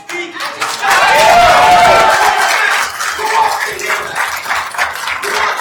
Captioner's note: attendees applauding